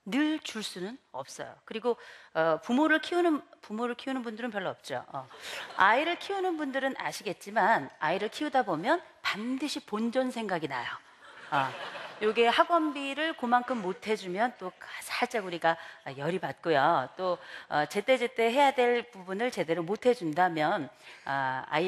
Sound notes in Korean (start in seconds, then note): 11.4 웃음